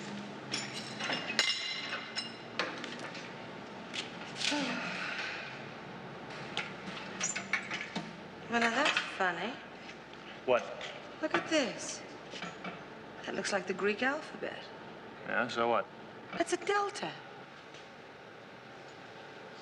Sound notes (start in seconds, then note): 0.1 metal rattling; 4.4 sighs